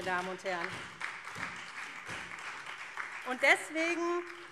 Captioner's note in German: Beifall SPD